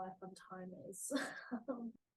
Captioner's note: laughs